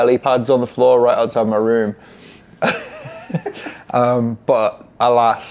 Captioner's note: laughs